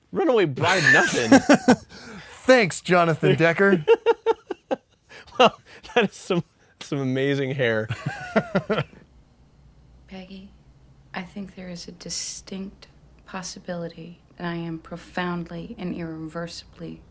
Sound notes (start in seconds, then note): 7.9 laughs